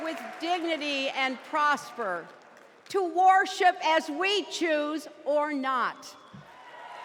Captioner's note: applause